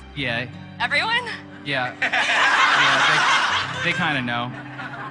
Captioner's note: mob laughs